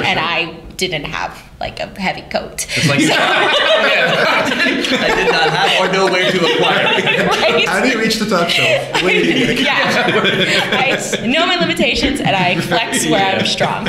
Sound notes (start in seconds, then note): 5.6 laughter; 7.6 laughter; 10.1 laughter